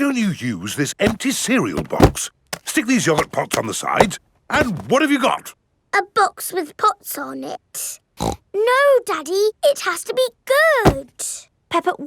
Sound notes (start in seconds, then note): 8.2 snorts